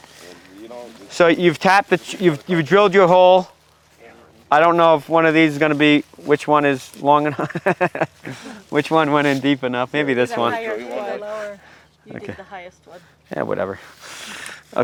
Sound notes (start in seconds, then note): 7.2 laughs